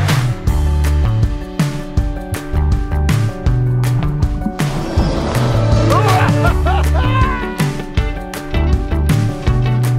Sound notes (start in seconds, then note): 0.0 upbeat music; 5.6 laughing; 7.3 upbeat music